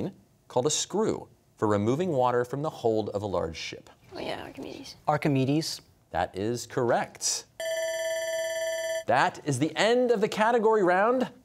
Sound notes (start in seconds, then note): 4.3 whispering; 5.0 quietly; 7.6 bell ringing